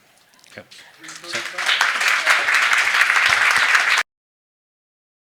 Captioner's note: attendees applauding